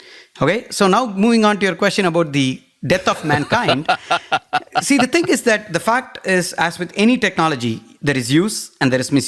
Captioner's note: laugh